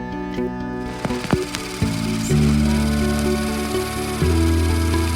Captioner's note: projector clicking